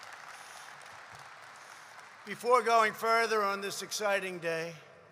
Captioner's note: applause